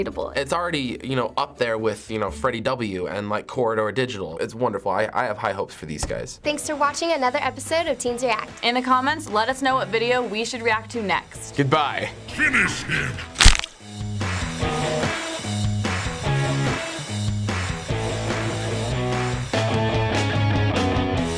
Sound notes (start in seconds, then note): 13.1 punk rock music; 13.3 neck cracks